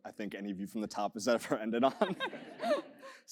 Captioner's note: laugh